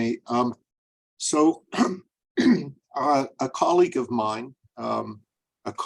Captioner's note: clears throat